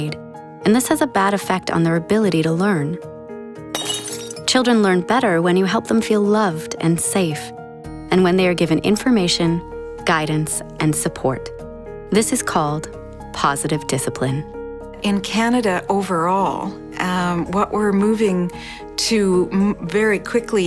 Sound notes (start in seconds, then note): 3.7 glass shattering